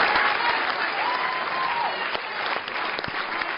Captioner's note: cheers and applause